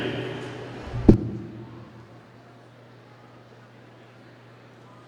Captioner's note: audience chattering